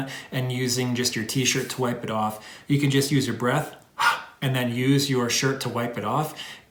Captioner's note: heavy breath